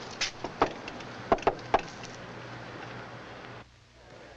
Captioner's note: knocks on door